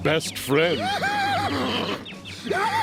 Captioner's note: laughing